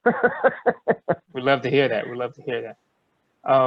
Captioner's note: laughter